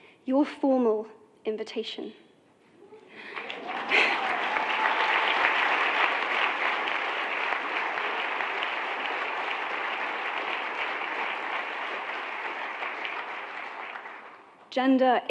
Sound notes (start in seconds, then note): 2.8 really loud applause; 2.8 applause dies down